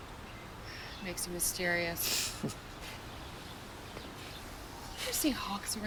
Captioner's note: Chris chuckles